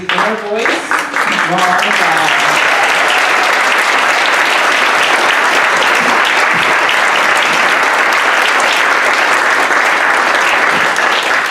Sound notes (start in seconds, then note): 0.1 audience applauding